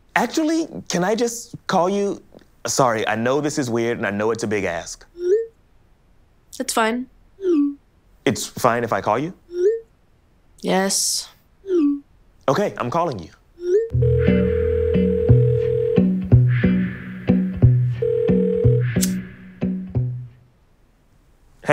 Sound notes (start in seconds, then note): 13.9 phone ringing; 13.9 lighthearted instrumental music; 19.0 flicking lighter